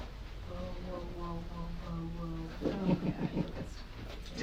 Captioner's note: whispers